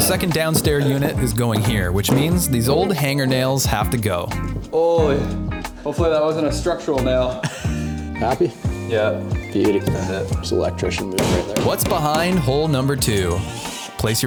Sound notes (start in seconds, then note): 7.3 laughing